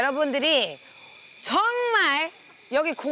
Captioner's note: buzzzzzzzing